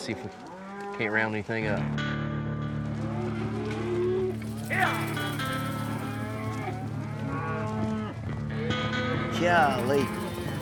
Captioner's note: cows moo